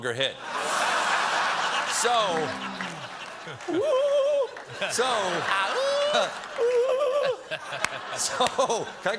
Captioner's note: laughter